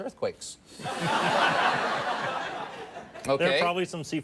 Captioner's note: audience laughs